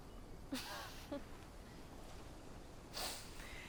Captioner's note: both chuckling